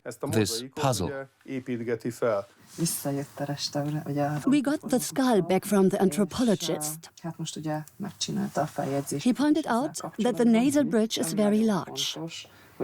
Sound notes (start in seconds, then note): 2.5 speaks Hungarian; 4.3 dubbed in English